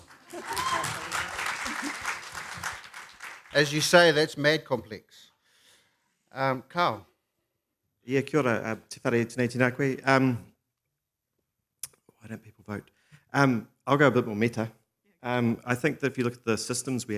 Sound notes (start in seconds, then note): 0.0 applause; 8.1 speaks in foreign language